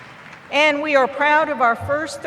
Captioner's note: applause